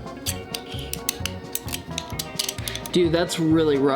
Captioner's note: blade cutting